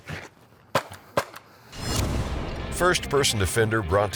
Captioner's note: gun shooting